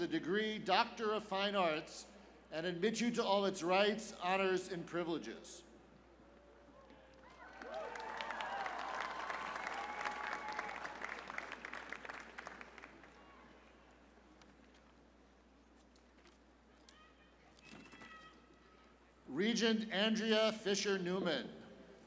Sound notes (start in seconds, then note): 7.1 cheers and applause